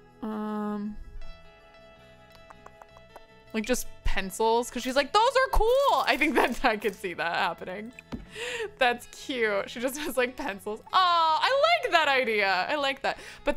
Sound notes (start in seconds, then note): 2.3 clicks tongue